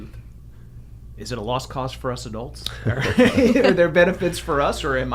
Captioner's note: laughs